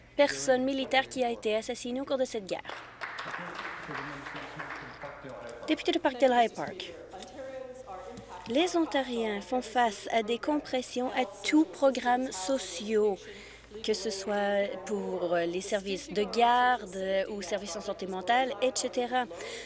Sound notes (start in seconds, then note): 5.7 some Applause